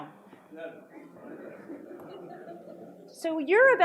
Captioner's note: audience responds